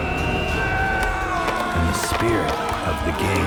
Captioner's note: warriors Yelling